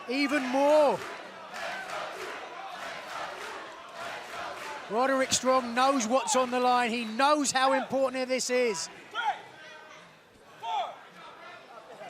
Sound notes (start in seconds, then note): 1.8 fans chanting